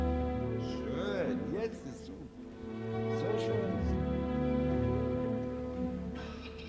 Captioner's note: speaking in foreign language